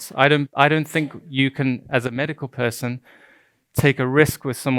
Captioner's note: stuttering